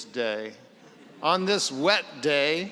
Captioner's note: laughter